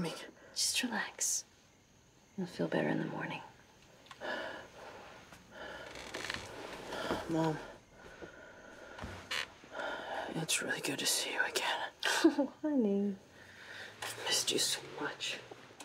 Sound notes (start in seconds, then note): 12.0 chuckles